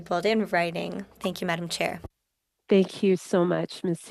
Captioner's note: speaking French